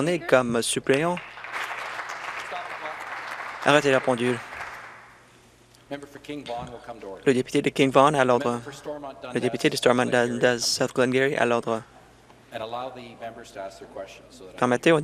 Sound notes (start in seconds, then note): 4.1 applause